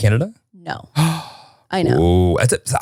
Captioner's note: gasping